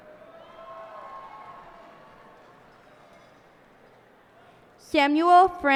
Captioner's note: cheers and applause